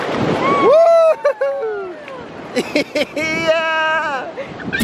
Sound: laughter

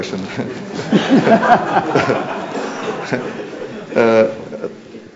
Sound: laughter

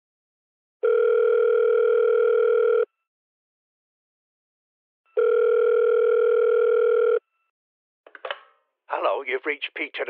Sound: phone rings

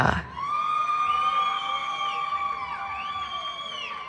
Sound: cheering

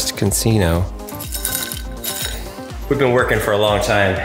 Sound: jar rattles

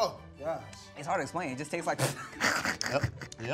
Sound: laughs

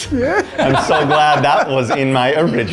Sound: laughing

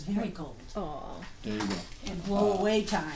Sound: voiceover

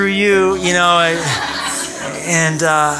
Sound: laughter

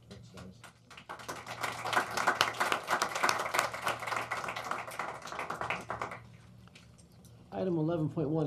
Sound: applause

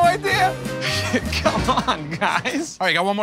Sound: laughing

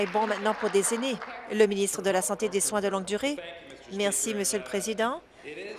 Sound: applause

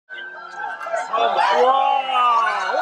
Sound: people cheering

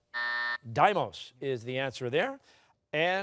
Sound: buzzer sounding

